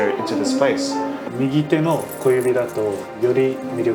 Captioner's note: speaking in foreign language